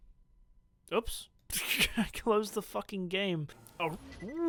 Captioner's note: laughs